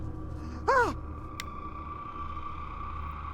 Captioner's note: screams